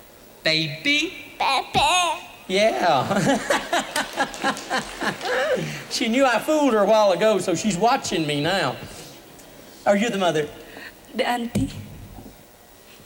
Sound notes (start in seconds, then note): 2.9 boisterous laughter